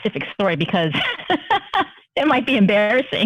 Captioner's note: laughter